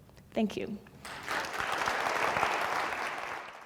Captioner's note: applause